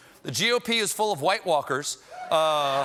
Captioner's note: cheers and applause